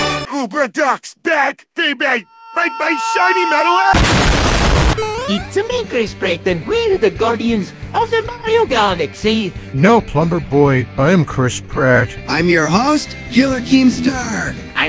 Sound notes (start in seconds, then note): 3.9 boom